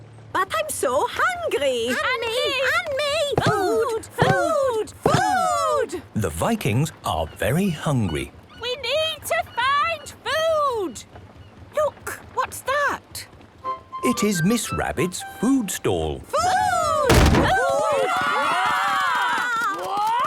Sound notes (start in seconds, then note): 2.2 calling out in turn